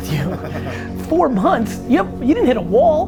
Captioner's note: group laughter